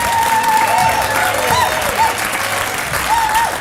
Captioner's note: applause